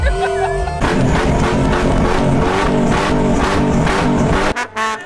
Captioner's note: engine roaring